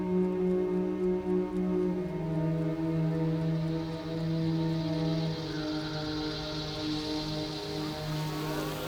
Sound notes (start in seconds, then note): 2.8 insects buzzing